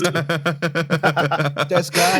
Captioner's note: laughter